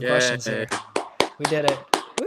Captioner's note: both clapping